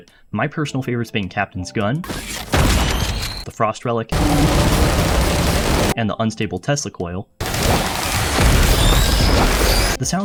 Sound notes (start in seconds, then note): 2.1 sexy gunshot sfx; 4.1 sounds of pure icy death; 7.4 various noises of enemies getting rightfully electrocuted & cooked